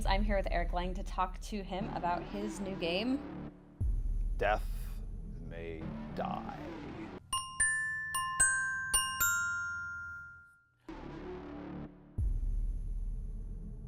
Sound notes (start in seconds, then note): 7.3 chimes; 11.0 electric music